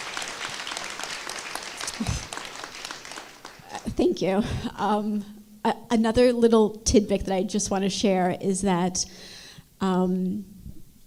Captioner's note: applause